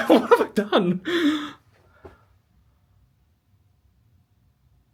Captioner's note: gasping